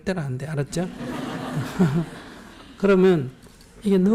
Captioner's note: audience laugh